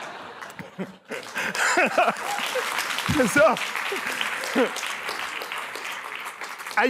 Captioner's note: laughter; applause